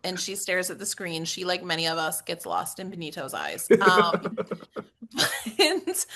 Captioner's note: laugh